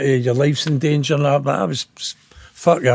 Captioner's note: none